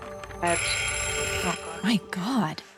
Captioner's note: bell rings